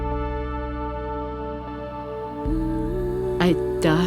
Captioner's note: grandmother speaking in Inuktitut